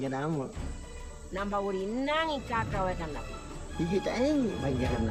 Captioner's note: speaking in foreign language